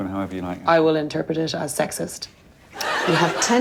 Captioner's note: laughter